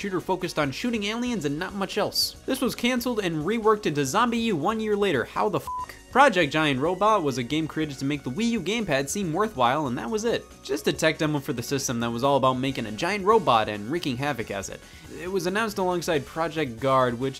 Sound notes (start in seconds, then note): 5.6 beep